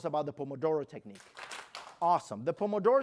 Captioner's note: clap